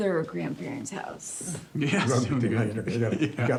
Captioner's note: laughing